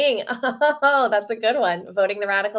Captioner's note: chuckles